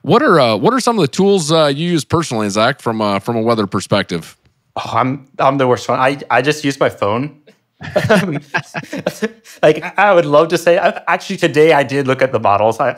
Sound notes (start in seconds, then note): 7.8 laughing